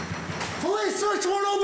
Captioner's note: knocking